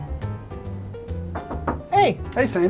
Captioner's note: knocking